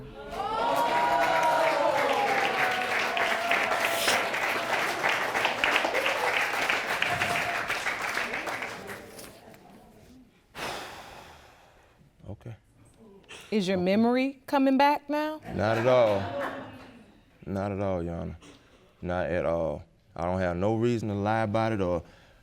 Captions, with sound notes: (AUDIENCE GROANS) (AUDIENCE APPLAUDING) (EXHALES DEEPLY) Okay. Is your memory coming back now? (SCATTERED LAUGHTER) Not at all. Not at all, Your Honor. Not at all. I don't have no reason to lie about it or...